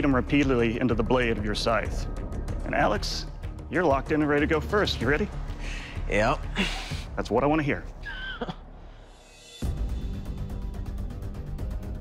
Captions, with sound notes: into the blade of your scythes. And Alex, you're locked in and ready to go first. You're ready? Yep. That's what I want to hear. [laughs] [suspenseful music]